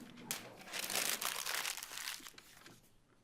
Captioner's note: paper crumples